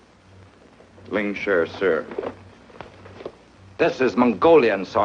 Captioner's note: speaks foreign language